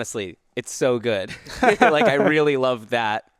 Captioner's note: laughs